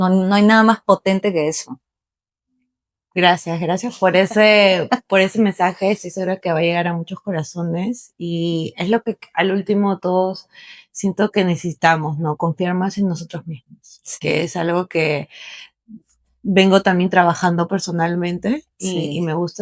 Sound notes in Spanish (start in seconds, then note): none